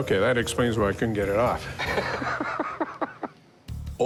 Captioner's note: laughter